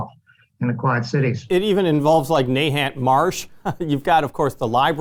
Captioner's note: chuckles